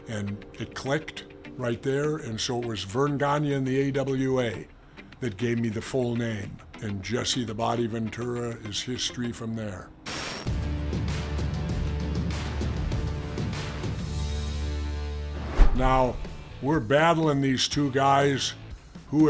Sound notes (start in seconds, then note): 10.0 static crackling; 10.5 compelling music